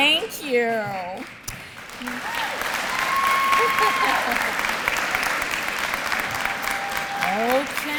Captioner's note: applause